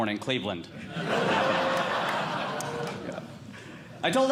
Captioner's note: audience Laughing